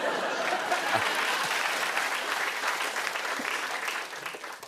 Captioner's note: laughter; applause